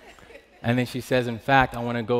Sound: laughter; normal voice

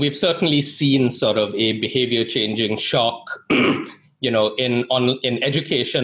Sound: clears throat

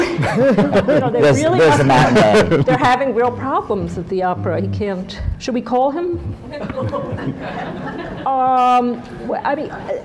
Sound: laughter; laughter

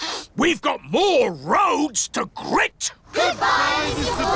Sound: sniffs

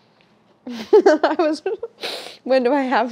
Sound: laughing

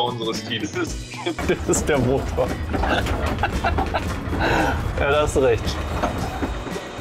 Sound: laughs

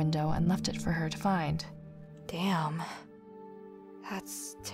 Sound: none

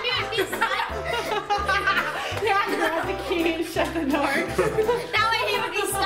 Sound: laughing

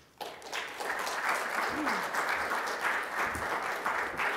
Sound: applause

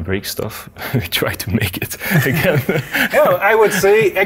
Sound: laughs

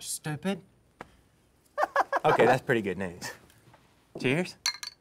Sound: laughs

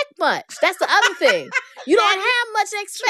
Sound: laughter

